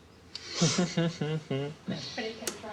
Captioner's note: laughing